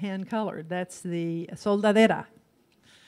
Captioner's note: in foreign language